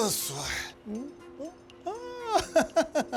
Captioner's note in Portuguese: Homem ri